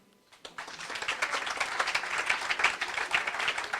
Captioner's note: applause